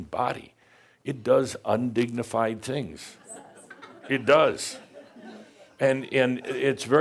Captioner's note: some chuckles and agrees